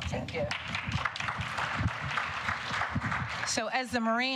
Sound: applause

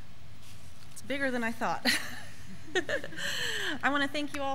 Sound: laughs

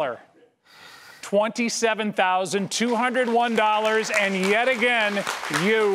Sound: audience applause

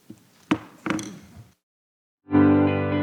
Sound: gavel thuds; upbeat music

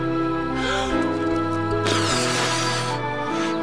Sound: gasps

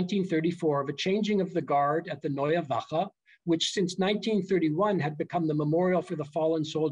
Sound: german

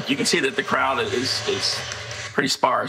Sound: distorted cheering

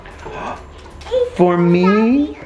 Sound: gasps

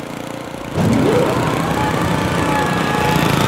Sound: whirring

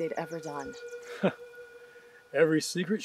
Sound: chuckles

